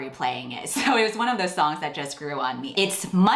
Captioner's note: laughs